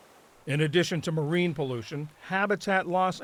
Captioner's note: voice-over